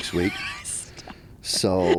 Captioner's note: laughs